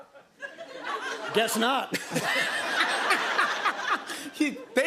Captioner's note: laughter